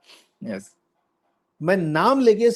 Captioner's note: nasal sound